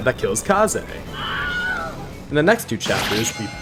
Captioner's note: scream